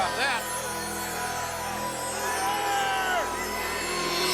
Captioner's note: crowd booing